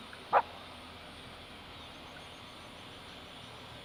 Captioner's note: dog barks